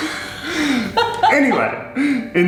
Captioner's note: laughs